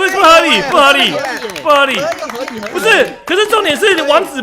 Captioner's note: applause